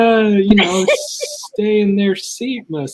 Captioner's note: laughs